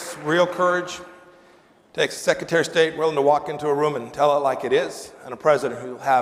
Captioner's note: applause